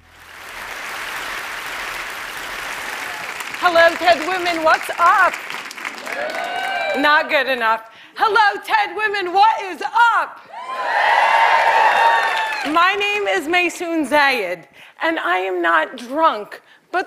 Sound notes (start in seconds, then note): 5.8 cheering; 10.4 loud cheering